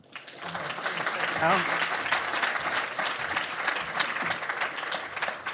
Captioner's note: audience applauding